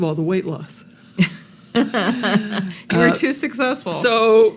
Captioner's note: laughing